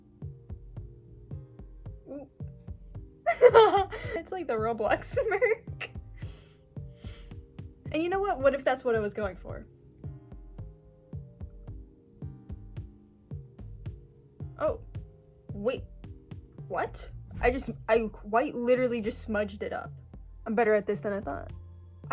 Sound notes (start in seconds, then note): 3.2 laughing